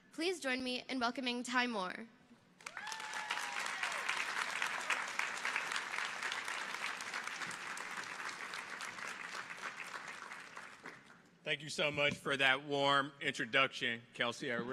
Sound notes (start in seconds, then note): 2.6 audience applauding